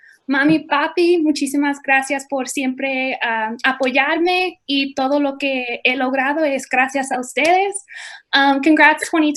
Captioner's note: speaking in foreign language